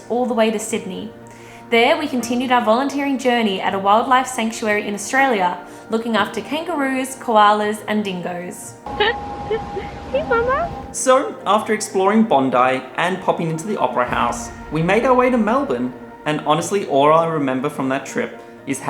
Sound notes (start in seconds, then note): 9.1 laughing